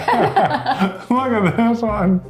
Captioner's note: laughing